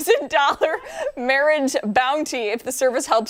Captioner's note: laughter